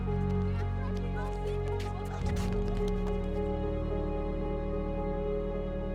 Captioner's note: background chatter